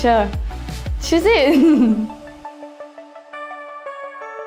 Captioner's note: laughs